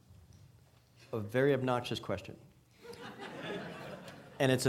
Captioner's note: audience laughing